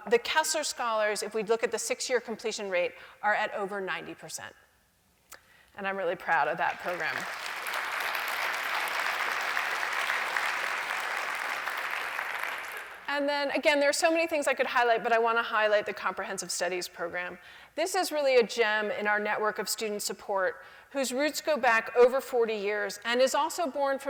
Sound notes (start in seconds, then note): 6.6 applause